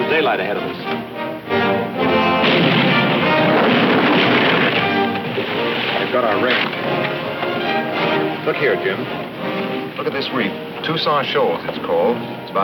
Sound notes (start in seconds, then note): 2.0 cannon firing; 3.5 ship clattering